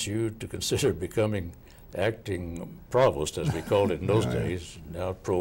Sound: laughing

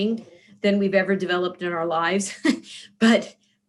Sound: laughs

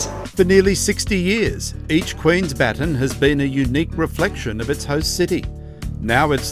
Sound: voiceover

